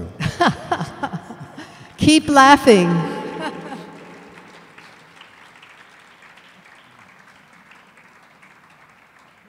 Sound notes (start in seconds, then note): 0.1 chuckles; 3.2 audience applauds; 3.3 chuckles